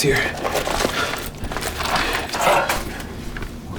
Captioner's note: Dwight panting